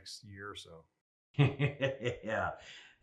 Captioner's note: laughs